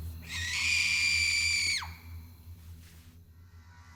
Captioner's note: loud screaming